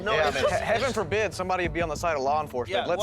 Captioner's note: laughs